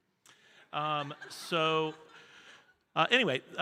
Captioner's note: audience laughing